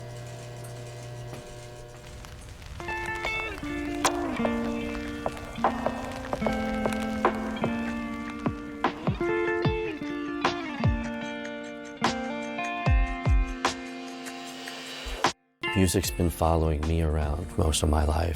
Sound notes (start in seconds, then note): 0.0 mechanical buzzing, needle plays static